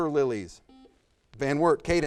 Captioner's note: buzzer buzzes